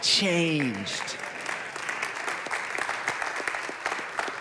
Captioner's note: congregation clapping